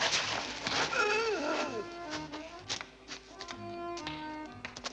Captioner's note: man groans